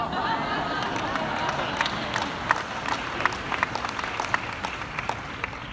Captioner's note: audience laughing and applauding